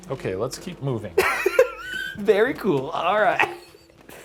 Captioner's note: laughs